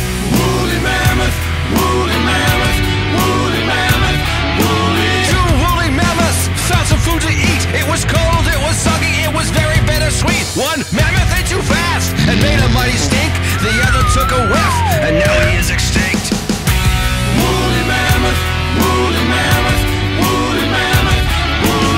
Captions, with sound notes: Woolly Mammoth Woolly Mammoth Woolly Mammoth Woolly Two woolly Mammoths found some food to eat It was cold, it was soggy, it was very bittersweet One Mammoth ate too fast and made a mighty stink [fart sound] The other took a whiff [whew!] and now he is extinct Woolly Mammoth Woolly Mammoth Woolly Mammoth Woolly